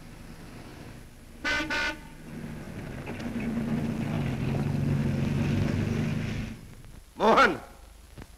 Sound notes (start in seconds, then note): 1.4 horn Honking